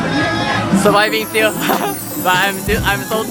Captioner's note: laugh